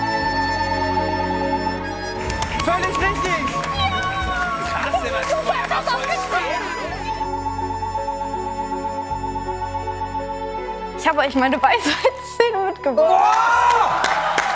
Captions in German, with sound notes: Völlig richtig! Ja! - Krass. (Aufgeregtes Durcheinanderreden) Ich habe euch meine Weisheitszähne mitgebracht. (Jubel, Applaus)